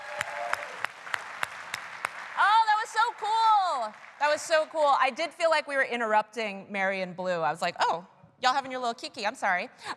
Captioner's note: applause